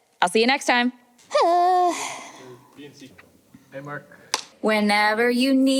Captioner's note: sighs; singing